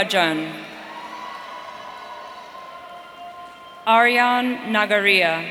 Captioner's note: audience cheering